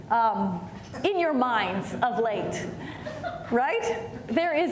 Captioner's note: audience chuckling